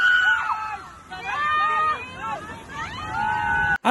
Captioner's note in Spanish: Gritos en Brasil